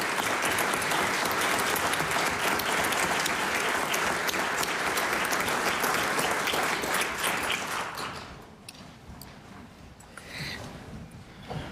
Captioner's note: cheering and Applause